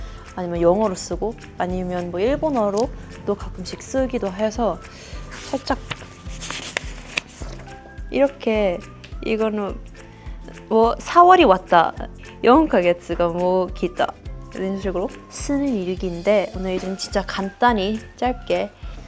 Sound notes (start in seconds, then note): 10.5 Korean; 12.1 Japanese